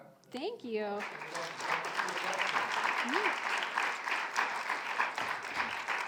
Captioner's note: audience applauding